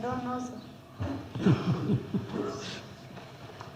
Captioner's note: laughs